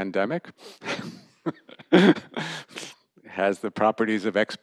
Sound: laughter

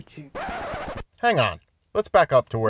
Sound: record scratching

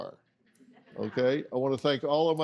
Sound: audience laughing

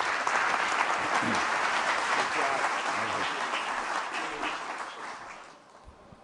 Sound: applause

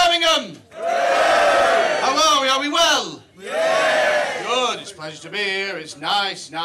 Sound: cheers

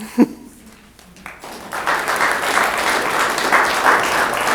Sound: applause

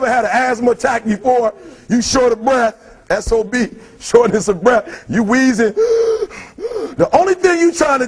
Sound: wheezing sound

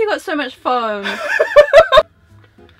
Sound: laughs

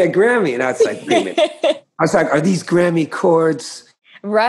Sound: laughter

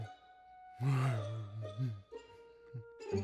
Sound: soft grunting

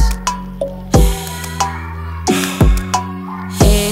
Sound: breathes in and out

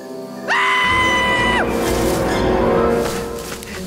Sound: screaming

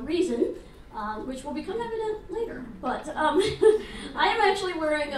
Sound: laughs

